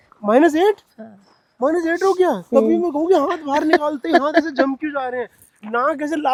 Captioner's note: laughs